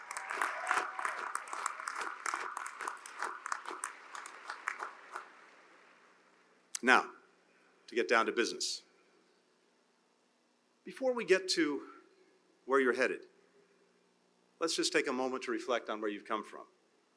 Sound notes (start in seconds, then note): 4.8 applause